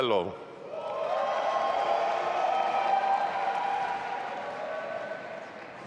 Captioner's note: audience applauding and cheering